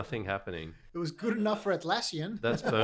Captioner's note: laughing